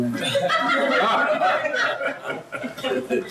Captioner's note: laughs